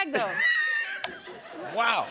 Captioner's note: laughter